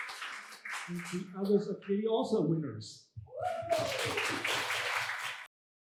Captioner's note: applause; applause